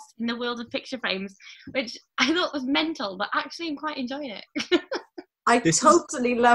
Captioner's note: she laughs